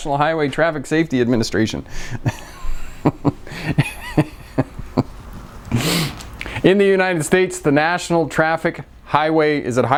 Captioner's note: laughing